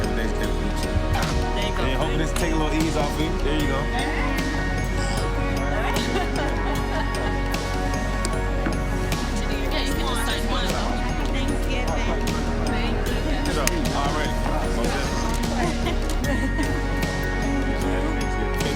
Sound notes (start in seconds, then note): 0.0 dramatic music; 4.0 dramatic music; 4.7 laughing; 16.5 dramatic music